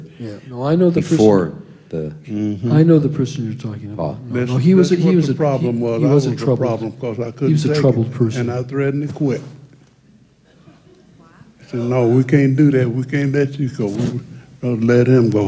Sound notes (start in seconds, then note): 9.7 audience stirs